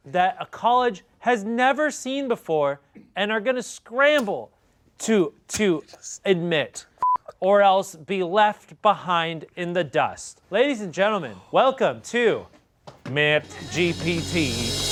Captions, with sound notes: that a college has never seen before and are gonna scramble to admit (beep) or else be left behind in the dust. Ladies and gentlemen, welcome to Matt GPT.